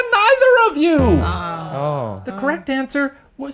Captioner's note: sighing